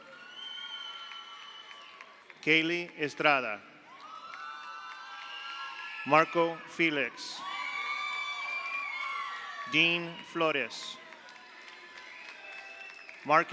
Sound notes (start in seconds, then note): 0.0 audience cheers; 0.0 audience applauds; 4.0 audience cheers; 7.6 audience cheers; 7.8 audience applauds; 11.2 audience cheers